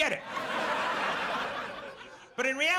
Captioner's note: audience laughs